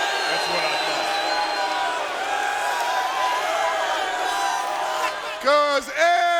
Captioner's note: applause